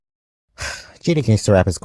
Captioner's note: heavy sigh